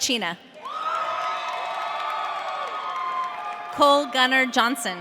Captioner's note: audience cheering